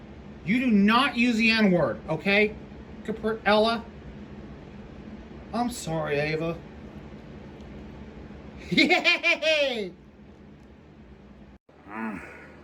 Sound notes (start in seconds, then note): 8.7 giggles